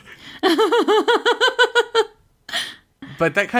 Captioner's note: laughs